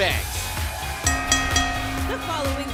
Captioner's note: bell rings